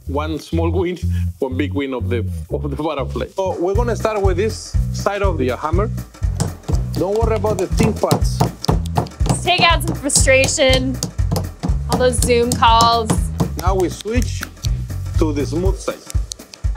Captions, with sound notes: - One small wing, one big wing of the butterfly. So, we're gonna start with this side of your hammer. [hammer tapping] Don't worry about the thin parts. - Let's take out some frustration. All those Zoom calls - Now we switch to the smooth side.